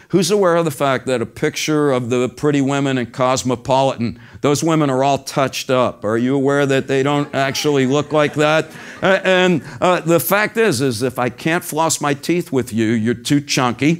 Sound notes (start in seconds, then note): 7.0 laugh